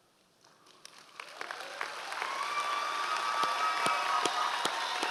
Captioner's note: audience applause